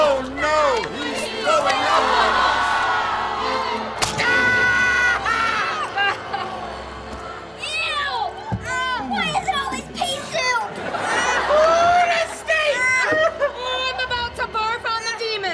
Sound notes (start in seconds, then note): 3.7 screaming